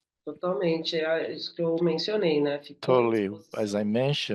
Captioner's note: speaking in Portuguese